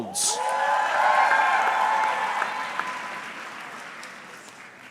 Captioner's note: audience cheering